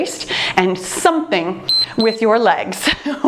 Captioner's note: timer beeps